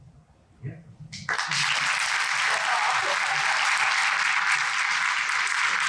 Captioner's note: audience clapping